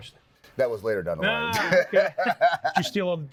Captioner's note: both laughing